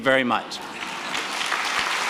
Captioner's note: laughter and applause